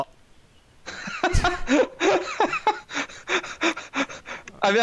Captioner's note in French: rire